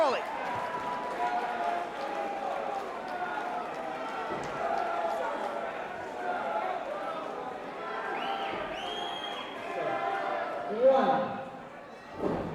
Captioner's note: crowd chatter